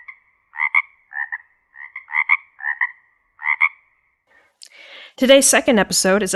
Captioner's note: frogs croaking